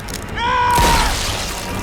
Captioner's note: man screams